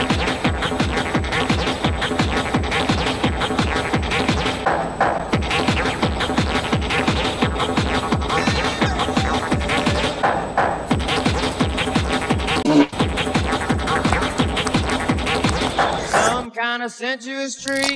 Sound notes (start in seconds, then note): 8.2 sound of a Seal; 12.6 music cuts, hot poot fills gap; 16.4 sings acapella